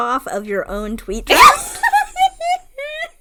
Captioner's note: laughs